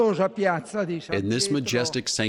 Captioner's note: through translator